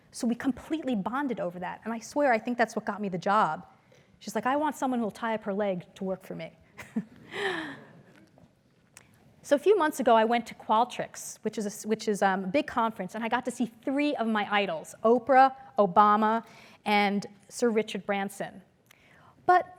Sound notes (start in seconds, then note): 6.5 laugh